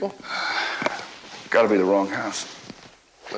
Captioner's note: sighs